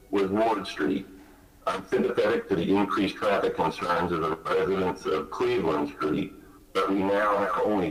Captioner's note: ~audio distortion~